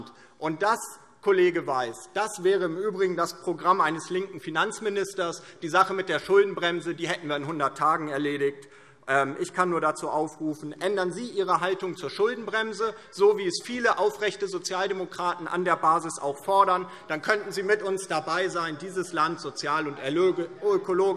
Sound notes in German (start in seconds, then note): none